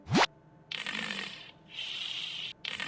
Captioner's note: 8-bit snoring